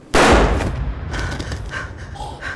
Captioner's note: gunshot; body hitting the floor; Gale choking